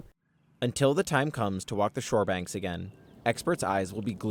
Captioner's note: voice-over